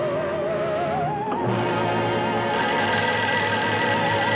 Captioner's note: ring